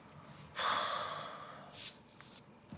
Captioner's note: charlie sighs